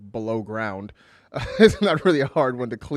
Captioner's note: laughs